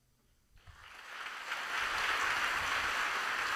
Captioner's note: applause